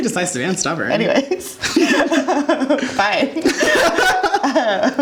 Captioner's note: laughing